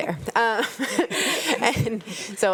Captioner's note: panelist chuckling